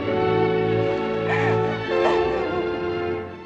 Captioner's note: sobbing